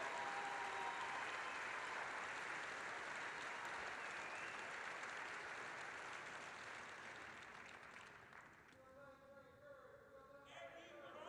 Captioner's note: applause